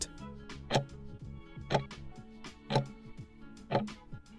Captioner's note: timer ticking